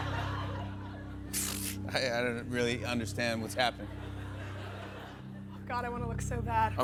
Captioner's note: scoffs